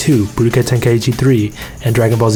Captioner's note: breathes